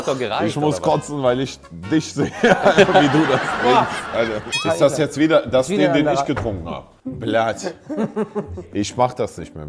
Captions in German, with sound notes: Ich muss kotzen, weil ich dich sehe, (Lachen) wie du das trinkst, Alter. (Boing) Das ist der, den ich getrunken hab? Blyat, ich mach das nicht mehr.